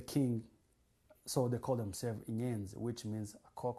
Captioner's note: non-english